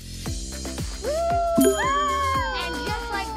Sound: cheers

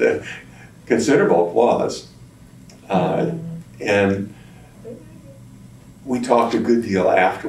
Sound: laughs

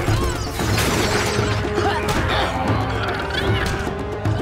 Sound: grunting

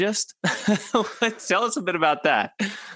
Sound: chuckles

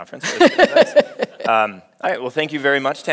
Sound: laughs

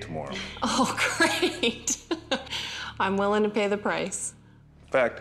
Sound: laughing

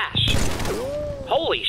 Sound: gunfire; bullets ricochet

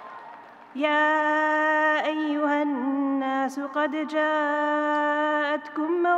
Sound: audience cheering; reciting in foreign language

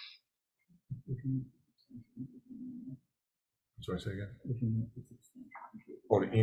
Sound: assistant speaks faintly

